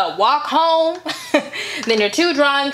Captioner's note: chuckles